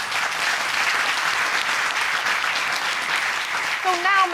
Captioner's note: applause